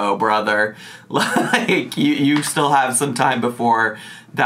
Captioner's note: laughing